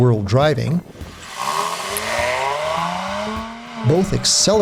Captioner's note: engine sound